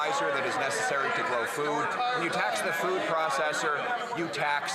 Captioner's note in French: voix de l'interprète